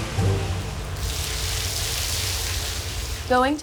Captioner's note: water splashing